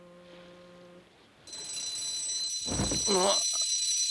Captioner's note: alarm clock ringing